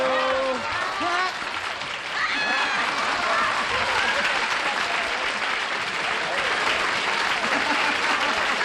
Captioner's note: applause